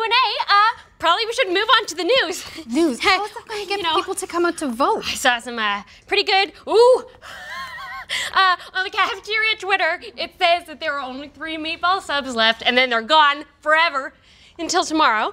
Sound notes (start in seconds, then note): 7.2 laughs